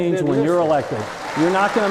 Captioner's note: applause